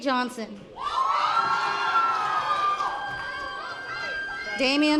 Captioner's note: members of the audience cheering